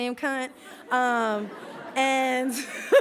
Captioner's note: laughs